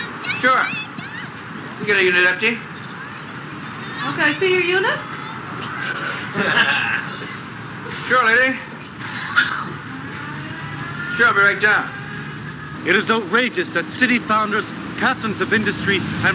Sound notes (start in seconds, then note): 5.7 laughing